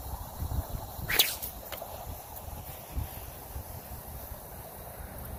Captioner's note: sling whips loudly